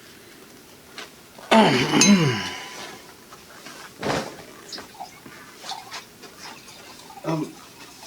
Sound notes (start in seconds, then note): 1.5 clears throat